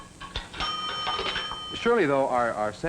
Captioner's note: phone rings